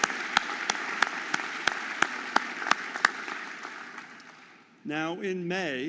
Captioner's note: audience applauding